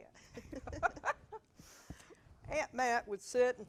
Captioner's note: both laughing